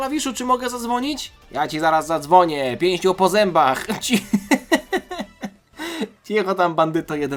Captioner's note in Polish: śmiech